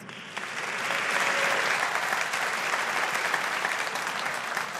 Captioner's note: audience applauding